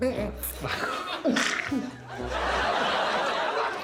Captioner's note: snorts; all laughing